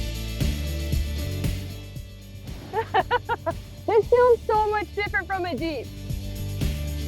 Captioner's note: laughs